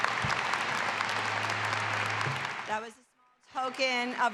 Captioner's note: audience applauding